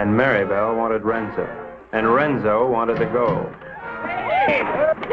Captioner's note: everyone exclaiming